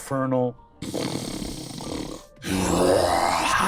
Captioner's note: growl